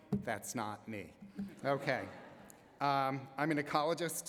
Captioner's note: laughter